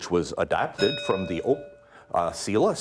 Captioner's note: bell ringing